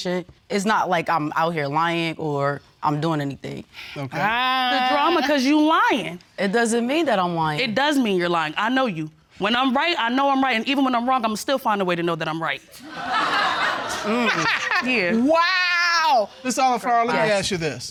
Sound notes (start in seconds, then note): 12.8 laughter